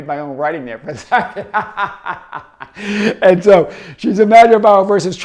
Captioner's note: laughs